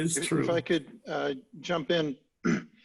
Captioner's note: clearing voice